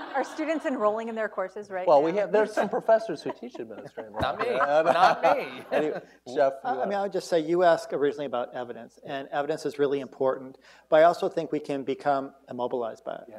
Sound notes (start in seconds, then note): 5.1 laughter